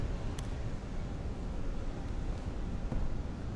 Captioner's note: none